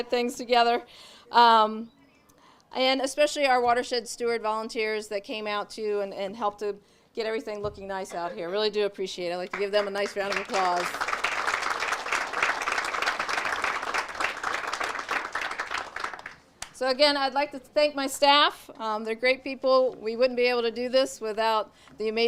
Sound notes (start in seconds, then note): 11.1 audience applauds